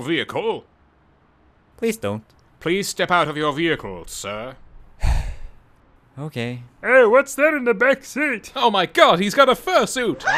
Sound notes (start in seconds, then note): 5.0 sigh; 10.2 deafening screeches